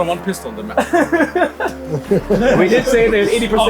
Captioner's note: people laughing